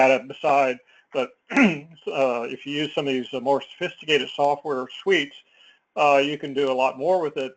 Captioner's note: cough